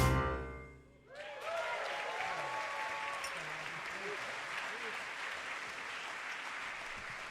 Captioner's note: audience cheering; audience applauding